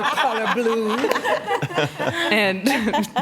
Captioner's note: laughter